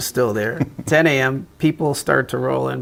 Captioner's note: chuckling